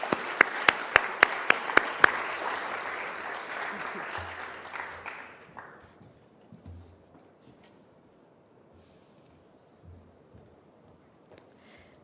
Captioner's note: applause